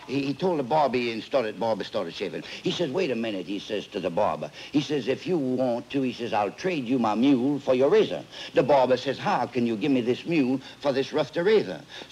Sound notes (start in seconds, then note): none